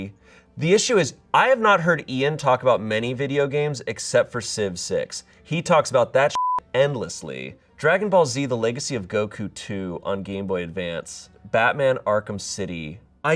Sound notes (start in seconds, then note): 6.3 beep